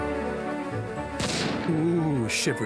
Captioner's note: boom